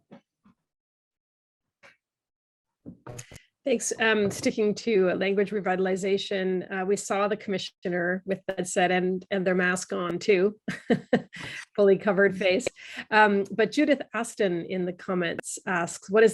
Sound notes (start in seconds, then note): 11.1 laughs